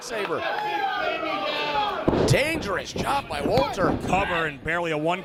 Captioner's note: applause